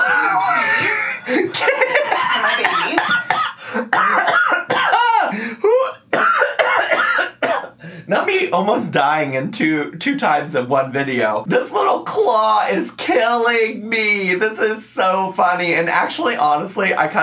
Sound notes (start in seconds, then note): 0.2 laughs; 4.0 coughs